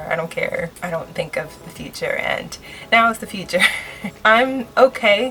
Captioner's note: laughs